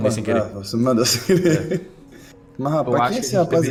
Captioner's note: laughing